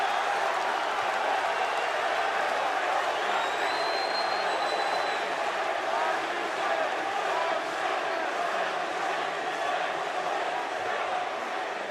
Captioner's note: crowd cheering